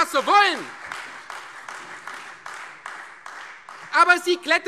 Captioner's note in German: Beifall Freie Demokraten, vereinzelt CDU und AfD